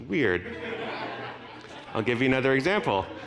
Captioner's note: audience laughing